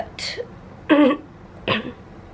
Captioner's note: clears throat